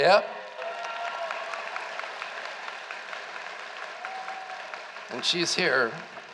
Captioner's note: applause